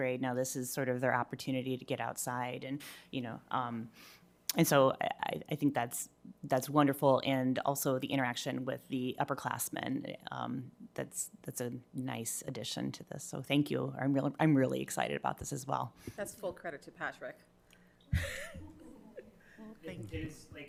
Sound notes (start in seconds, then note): 18.1 laughs